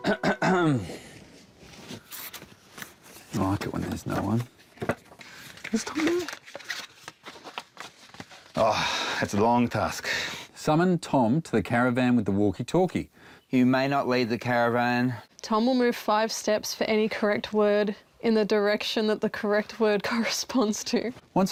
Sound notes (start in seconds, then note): 0.0 clears throat